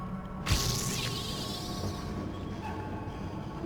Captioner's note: gunshots